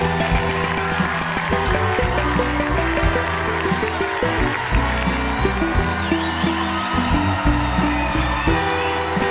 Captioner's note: cheers and applause